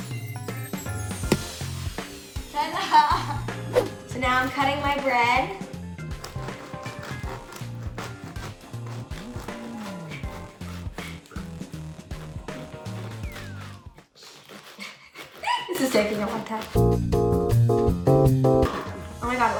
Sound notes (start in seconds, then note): 1.2 bread thumping; 15.4 giggling; 16.7 lively music